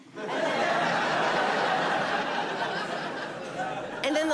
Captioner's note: audience laughing